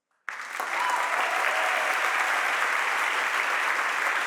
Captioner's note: audience applauding